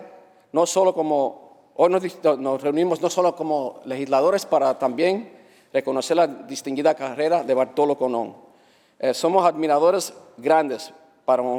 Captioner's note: speaking spanish